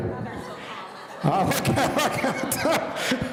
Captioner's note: laughing